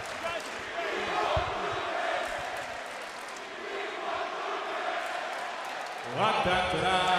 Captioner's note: crowd cheering